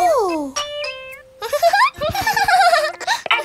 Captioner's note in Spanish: Risas